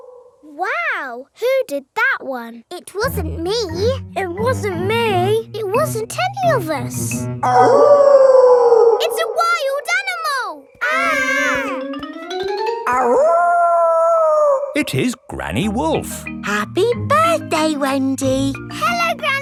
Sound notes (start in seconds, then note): 7.4 wolf howling loudly; 10.7 kids yelling; 12.9 howling